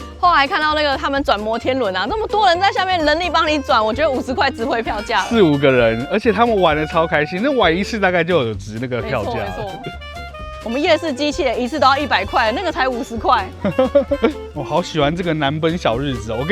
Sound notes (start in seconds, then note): 13.6 laughs